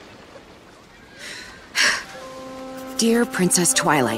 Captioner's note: sighs